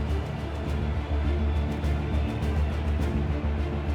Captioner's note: music intensifies; crowd cheering